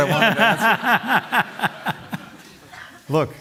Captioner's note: laughter